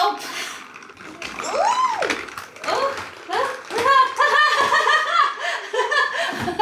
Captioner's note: nervous laughing